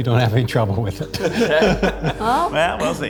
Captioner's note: group laughs